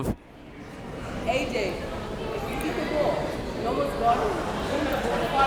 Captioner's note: crowd members talking